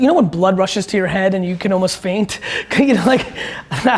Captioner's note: laughs